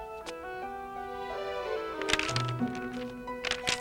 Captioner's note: pages clacking